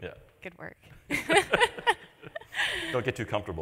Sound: laughs

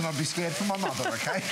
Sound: laughter

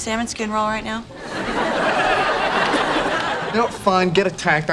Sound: audience laughing

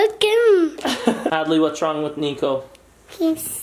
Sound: laughs

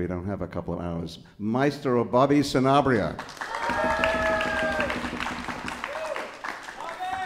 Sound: audience applauds and cheers

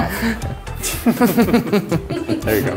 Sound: chuckles

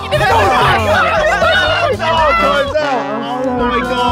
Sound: all shout at once

